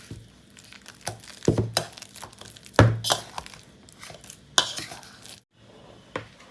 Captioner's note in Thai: เสียงบดกล้วย